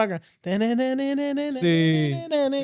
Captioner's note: humming